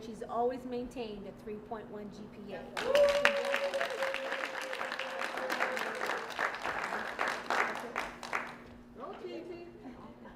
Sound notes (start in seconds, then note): 2.7 applause